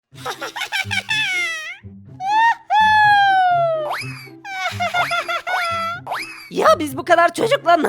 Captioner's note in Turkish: Gülme sesi